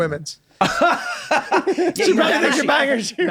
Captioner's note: laughing